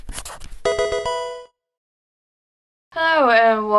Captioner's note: pencil writing; electronic chiming